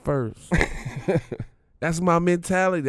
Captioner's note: Darius laughing